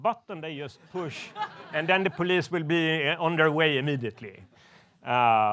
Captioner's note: laughs